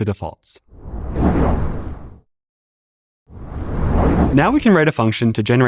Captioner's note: whoosh